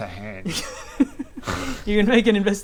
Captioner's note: laughs